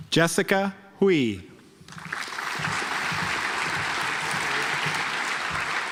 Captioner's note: audience applauds